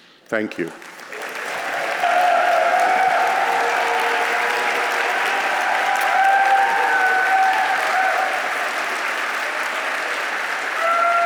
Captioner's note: applause